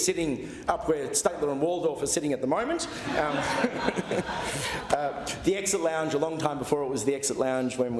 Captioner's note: laughter